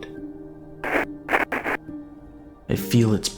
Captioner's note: Static